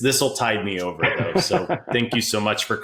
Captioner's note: laughing